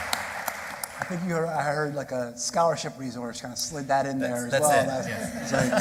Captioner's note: applause